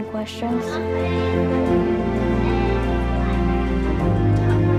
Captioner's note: children talking